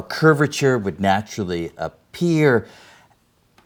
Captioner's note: none